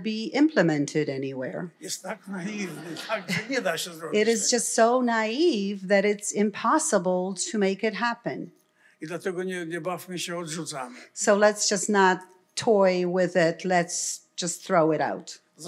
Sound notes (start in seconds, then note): 1.7 foreign language; 2.0 laughter; 8.6 foreign language; 15.5 foreign language